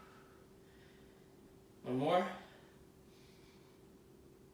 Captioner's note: inhaling